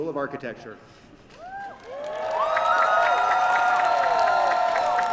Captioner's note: cheering